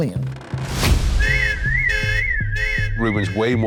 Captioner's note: car alarm blaring